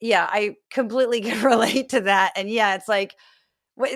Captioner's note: laugh